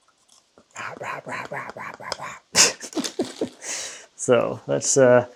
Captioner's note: person growls; laughs